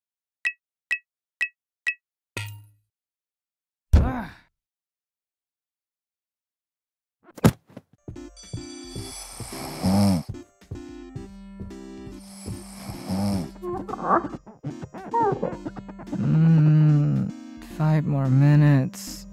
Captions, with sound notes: *loud snoring* *blobbies make noise* Hnn.. 5 more minutes